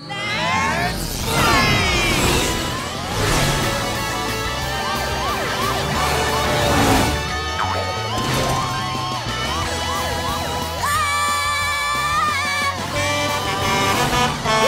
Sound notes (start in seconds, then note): 4.6 siren wailing; 9.5 siren wailing; 10.7 screaming; 12.7 truck horn honking